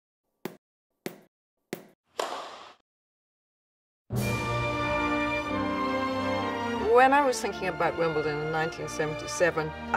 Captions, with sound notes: (ball bouncing) (racket hitting ball) (soaring orchestral music) - When I was thinking about Wimbledon in 1977,